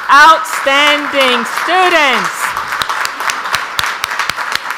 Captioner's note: audience applauds